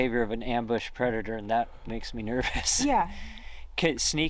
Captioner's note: laughs